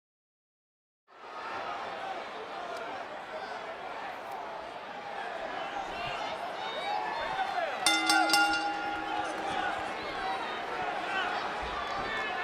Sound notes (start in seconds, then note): 4.0 background crowd noise; 7.8 bell rings